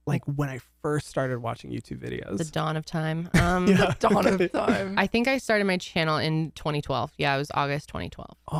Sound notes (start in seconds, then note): 3.3 laughs